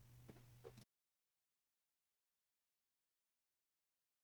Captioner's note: silence